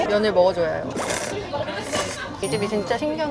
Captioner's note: A quick slurp